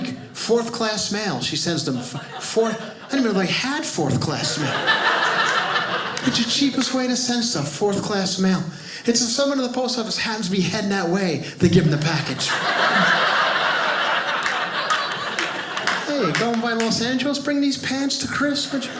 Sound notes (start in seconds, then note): 4.6 audience laughing; 12.2 audience laughing